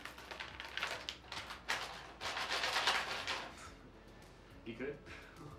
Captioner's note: chip bag crunching intensifies